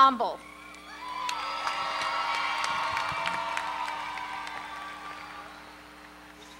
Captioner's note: applause